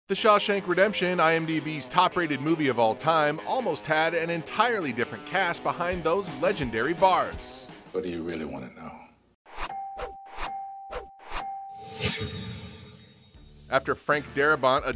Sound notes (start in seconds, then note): 9.5 graphics swiping; 11.9 metallic echoing